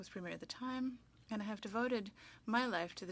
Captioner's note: speaking French